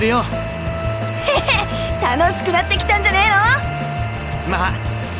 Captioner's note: chuckle